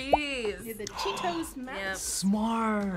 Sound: gasps

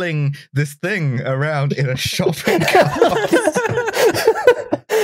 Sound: laughter

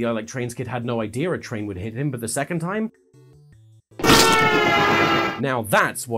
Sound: train horn

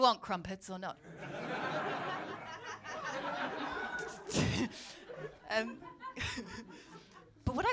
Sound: laughter

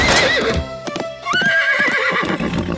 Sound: neighing

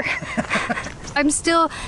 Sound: laughing

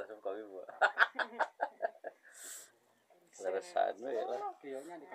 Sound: laughs

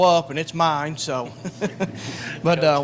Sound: laughing

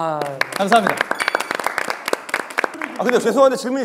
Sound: self-applause

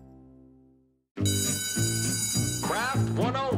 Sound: ringing bell

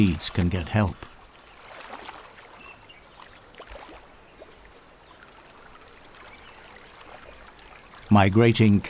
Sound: nature sounds

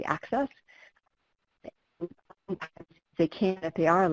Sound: audio dropping out

